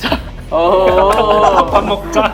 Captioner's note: laughing